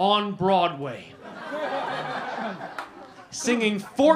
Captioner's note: laughter